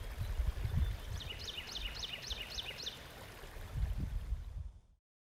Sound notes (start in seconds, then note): 4.2 birds chirping and flowing water